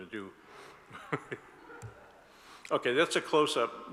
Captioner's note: laughs; audience laughs